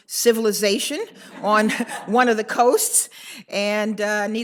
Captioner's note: audience laughs